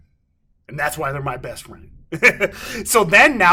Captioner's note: laughing